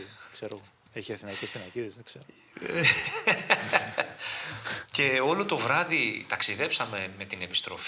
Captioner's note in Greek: γέλια